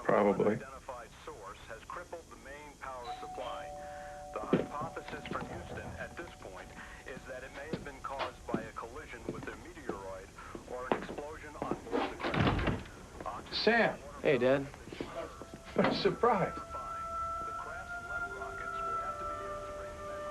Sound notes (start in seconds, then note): 3.0 doorbell dings; 4.6 knocking at door